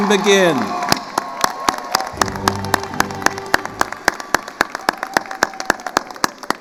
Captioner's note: attendees cheering and applauding